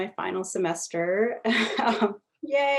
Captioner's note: laughs